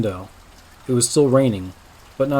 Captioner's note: soft raining in the background